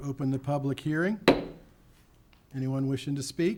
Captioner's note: gavel taps